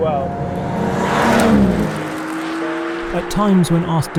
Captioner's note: car zooming